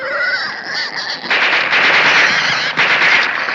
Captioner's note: gunshots